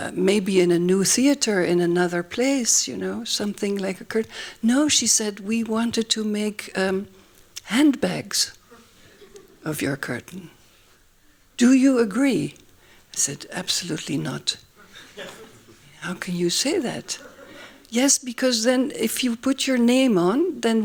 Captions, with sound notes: Maybe in a new theater, in another place, something like a curtain. No, she said. We wanted to make handbags of your curtain. Do you agree? I said, absolutely not. [LAUGHING] How can you say that. Yes, because then if you put your name on, then